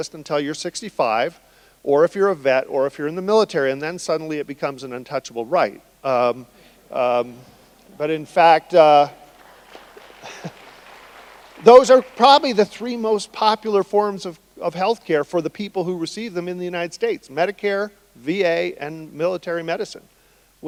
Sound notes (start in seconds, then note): 6.9 audience laughing; 9.3 laughs; 10.1 audience applauding